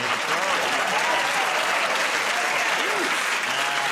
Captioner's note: laughter; applause